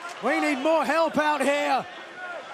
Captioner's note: crowd cheering